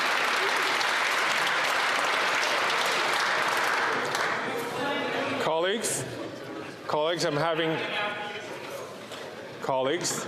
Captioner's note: applause